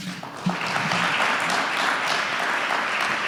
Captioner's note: applause